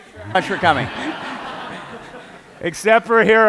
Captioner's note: laughter